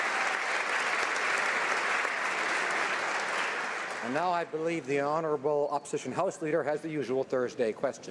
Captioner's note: applause